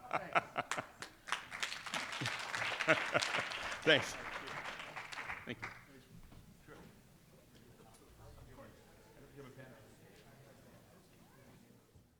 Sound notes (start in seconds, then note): 0.5 audience applauding